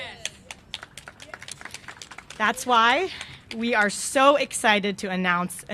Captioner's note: applause